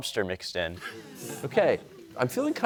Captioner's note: audience murmuring